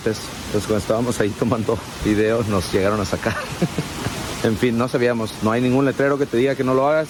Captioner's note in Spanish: risas